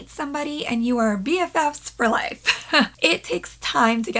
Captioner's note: laughing